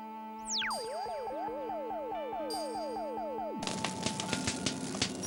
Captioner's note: laser thrums and zaps